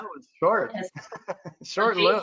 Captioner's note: laughs